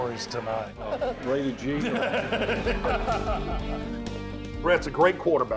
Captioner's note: laughter